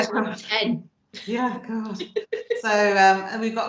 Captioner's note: laughs